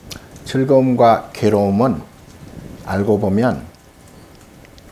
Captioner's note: speaking Korean